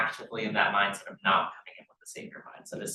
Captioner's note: sound distorted